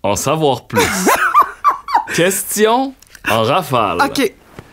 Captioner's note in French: éclat de rire